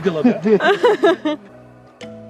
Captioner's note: all laughing